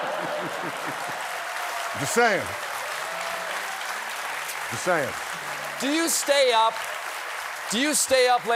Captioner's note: applause